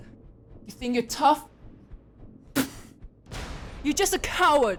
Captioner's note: spits